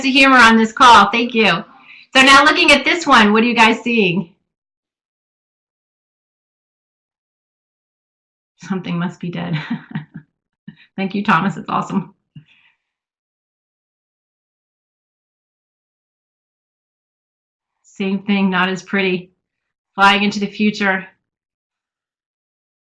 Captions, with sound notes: humor on this call, thank you. Now looking at this one what do you guys see? Something must be dead (laughs), thank you Thomas. It's awesome. Same thing not as pretty, flying into the future...